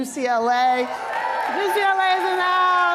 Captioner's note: applause